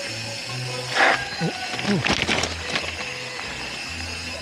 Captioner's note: skid